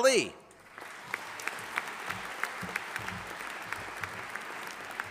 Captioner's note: audience applauding